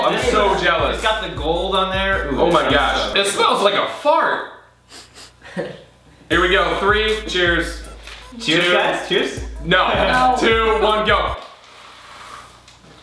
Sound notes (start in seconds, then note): 4.8 Sniffs; 4.9 हंसते हुए